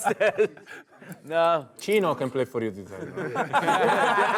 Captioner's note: voiceover; players laughing